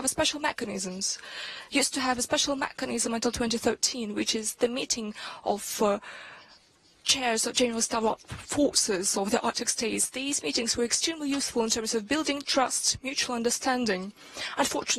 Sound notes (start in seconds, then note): 6.4 speaks with heavy accent